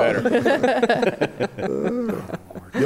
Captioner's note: laughter